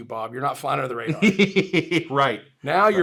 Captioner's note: laughs